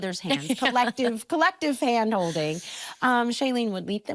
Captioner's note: laughing